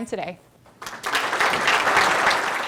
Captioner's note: applause